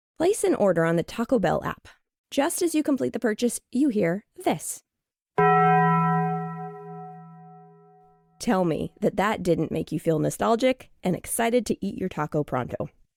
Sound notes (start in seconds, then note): 5.4 SFX- Taco Bell Gong